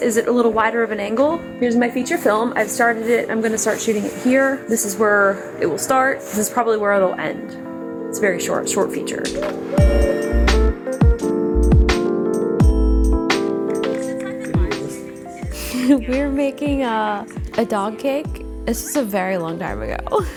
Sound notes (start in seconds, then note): 9.2 dramatic music; 13.8 people chattering; 15.2 chuckles